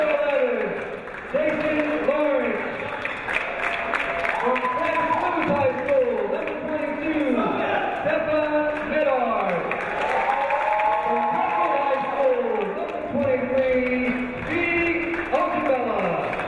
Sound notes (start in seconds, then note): 2.9 cheering; 2.9 clapping